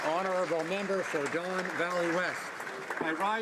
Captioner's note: some Applause